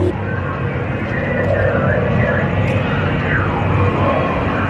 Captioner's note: voices over intercom